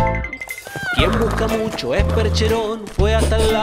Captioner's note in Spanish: Relincho